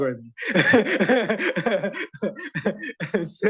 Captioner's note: chuckles